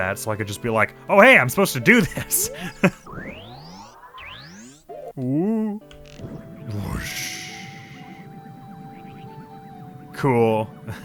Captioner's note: Fire Arrows charge up; mimics fire noises; chuckles